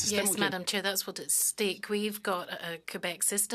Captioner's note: speaking French